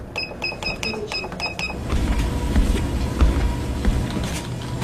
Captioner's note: beeping